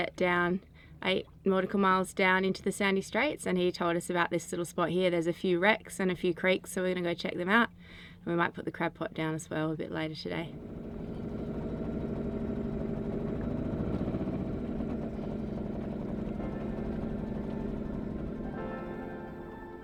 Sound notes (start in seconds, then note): 11.4 boat engine rumbling; 17.1 gentle music